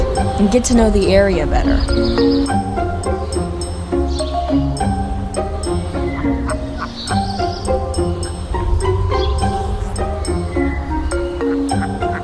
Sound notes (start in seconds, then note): 2.7 bright music; 5.4 duck clucking